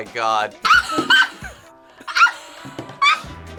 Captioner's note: laughing